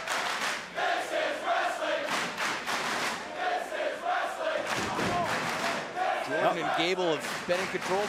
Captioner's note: crowd cheering